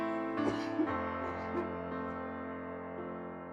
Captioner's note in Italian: tosse affannosa